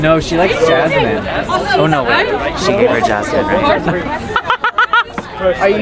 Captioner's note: laughing